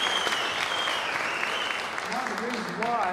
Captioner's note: applause